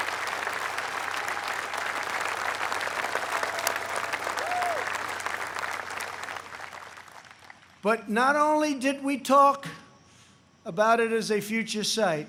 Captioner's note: applause